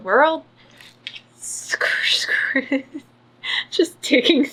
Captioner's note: laughs